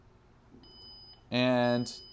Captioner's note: beeping